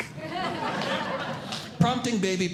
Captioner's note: audience Laughing